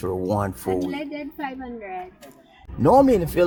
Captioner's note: foreign Language